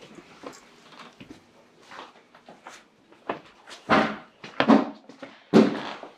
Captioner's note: footsteps shuffle; bangs thud